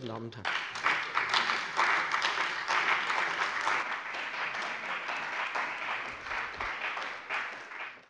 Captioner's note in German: Beifall bei dem BÜNDNIS 90/DIE GRÜNEN und der CDU